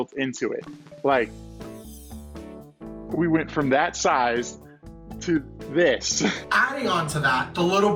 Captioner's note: laughs